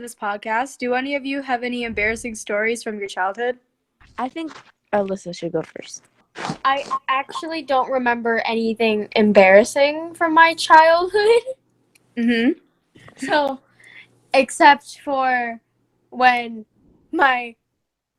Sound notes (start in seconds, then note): 13.1 giggle